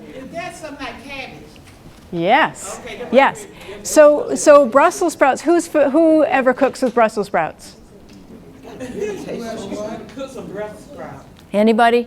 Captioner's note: audience talks among themselves